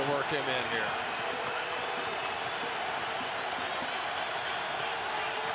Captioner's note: crowd cheering